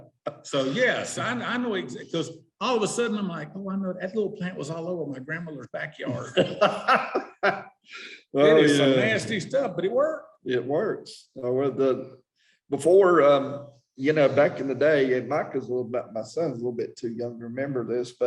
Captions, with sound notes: All of a sudden I'm like, I wonder if that little plant was all over my grandmother's backyard. (laughing) It is some nasty stuff, but it worked. - It works. Before, you know, back in the day, Micah, my son's a little bit too young to remember this,